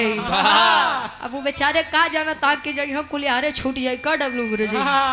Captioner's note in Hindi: हंसी